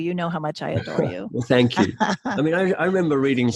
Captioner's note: laughs